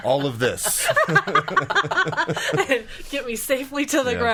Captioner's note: laughing